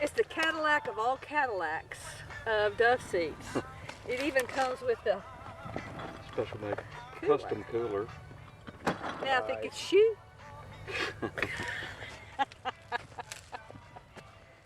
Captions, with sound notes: It's the Cadillac of all Cadillacs, of dove seats. It even comes with the cooler. Now if it could shoot. (hearty laughing)